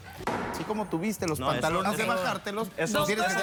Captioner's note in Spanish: Hablan al unísono